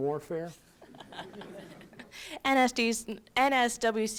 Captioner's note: laughter